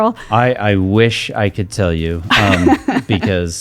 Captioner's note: laughing